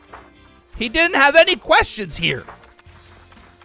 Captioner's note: shouting